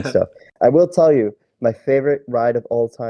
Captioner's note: laughs